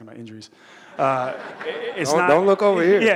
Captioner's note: audience laughing